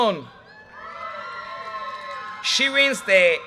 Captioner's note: audience cheers and applause